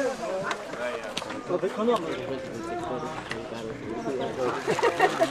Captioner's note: conversations in different languages